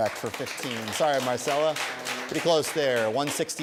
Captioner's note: applause